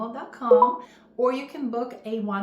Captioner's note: graphic chimes